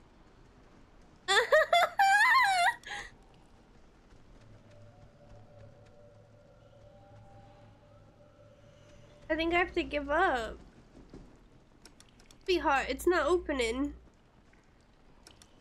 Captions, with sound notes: [Laughter] I think I have to give up sweetheart it's not opening